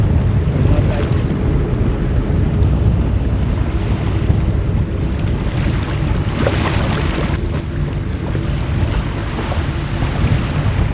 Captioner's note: sound of wind and water